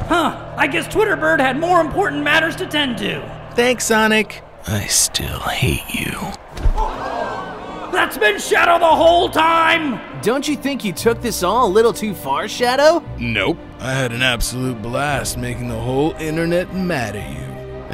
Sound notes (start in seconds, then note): 6.4 audience gasping